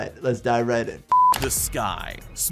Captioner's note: screen beeps